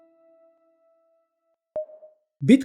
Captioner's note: pause